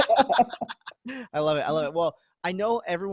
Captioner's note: laughing